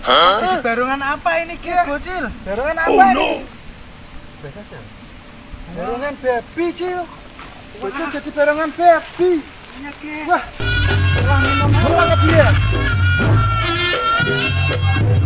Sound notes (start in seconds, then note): 6.0 clap; 7.8 applause